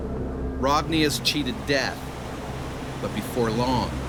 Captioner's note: voiceover